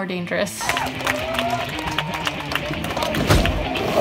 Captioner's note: crowd cheering; loud thud